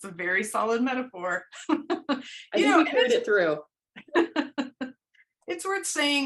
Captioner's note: laughter